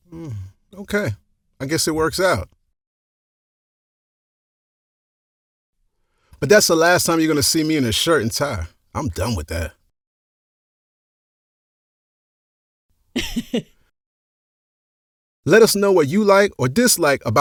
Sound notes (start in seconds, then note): 13.1 chuckles